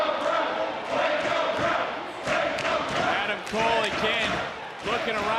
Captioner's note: audience chanting